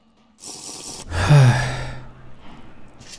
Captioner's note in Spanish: suspira en tortuga